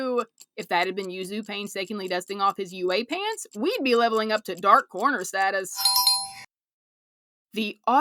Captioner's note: bell